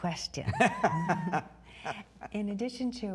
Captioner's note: laughing